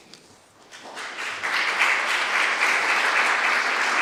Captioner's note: applause